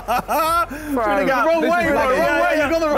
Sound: all laughing

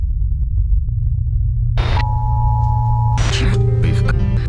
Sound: static hums; alarm blares

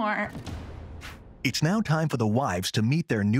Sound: voiceover

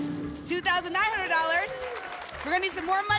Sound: applause

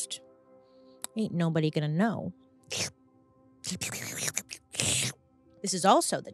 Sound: imitates slurping

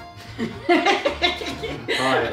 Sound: sudden laughter

